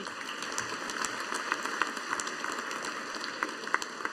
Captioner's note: audience applauding